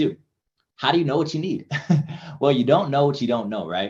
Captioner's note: chuckles